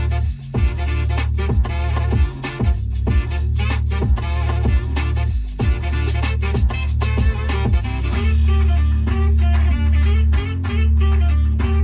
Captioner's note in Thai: ปรบมือ